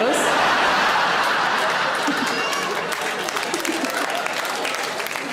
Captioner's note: audience laughing and clapping